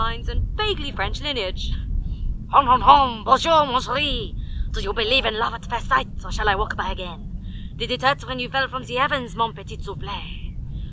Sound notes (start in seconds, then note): 2.3 bad French accent